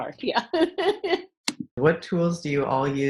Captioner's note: laughing